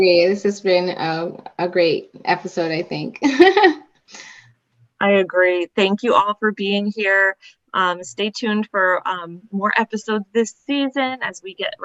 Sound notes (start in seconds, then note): 3.2 laughter